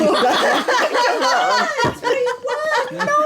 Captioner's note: laughing